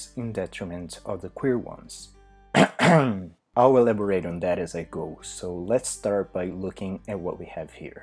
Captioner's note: cahem